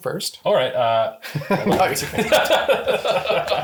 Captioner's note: laughs